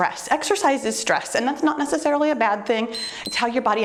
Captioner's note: timer beeps